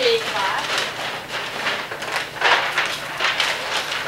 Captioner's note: paper crackling